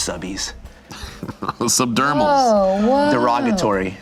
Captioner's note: laughs